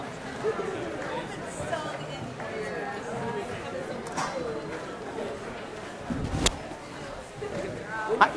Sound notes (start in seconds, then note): 4.0 indistinct conversations